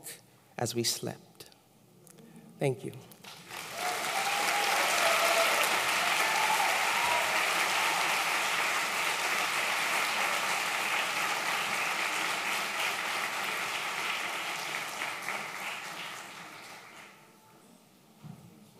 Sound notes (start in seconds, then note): 7.4 applause